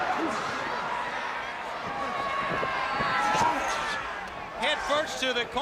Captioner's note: crowd chatter; crowd cheering